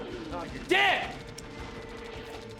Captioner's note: game sound effects